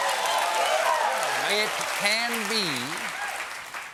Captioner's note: cheers and applause